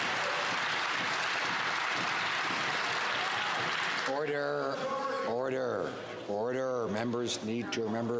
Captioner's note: some Applause